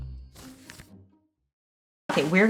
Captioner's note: page flipping